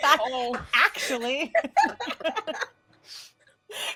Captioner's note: laughing